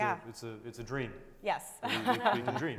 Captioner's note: chuckling